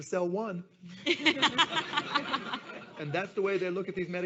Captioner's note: audience laughs